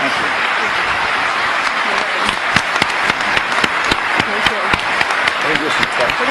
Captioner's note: applause